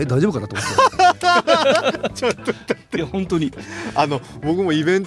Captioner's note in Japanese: 笑い